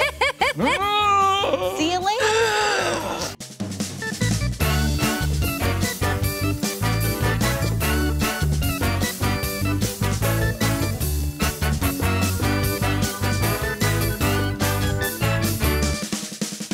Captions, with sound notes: - See you later! (group groaning monstrously) (lively, upbeat music)